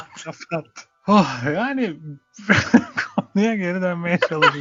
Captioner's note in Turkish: kahkaha